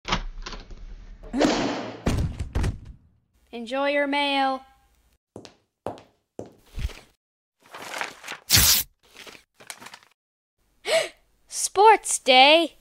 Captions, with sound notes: Enjoy your mail. (Gasp) Sports Day!